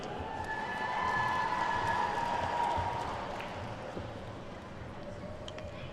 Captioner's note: attendees whooping and clapping